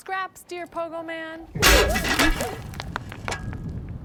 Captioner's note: metal rattles